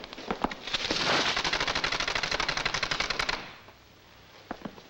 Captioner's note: blind rattles